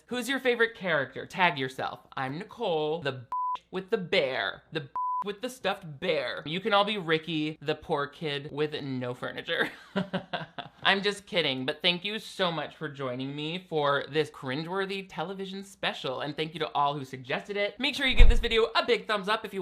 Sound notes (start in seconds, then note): 3.3 beep; 4.9 beep; 9.7 chuckles